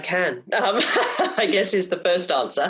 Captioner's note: laughs